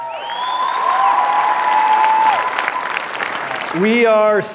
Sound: crowd cheering

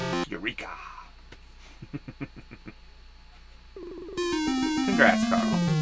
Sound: laughs

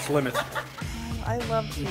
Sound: laughs

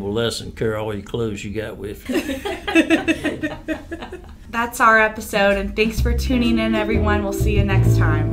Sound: laughter

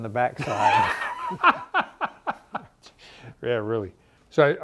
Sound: laughs

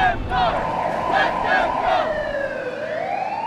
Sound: car door slamming; sirens wailing

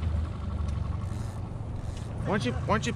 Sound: engine running; reel spinning

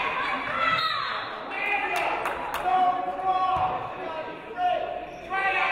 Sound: referee blows whistle

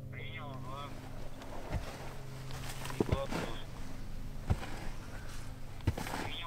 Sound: radio exchange

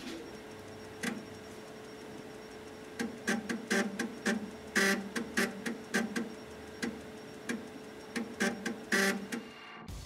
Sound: ♫ Floppy Disk Drive seeking noise

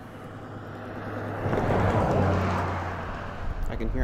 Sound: car whooshes past

